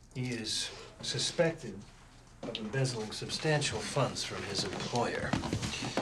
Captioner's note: none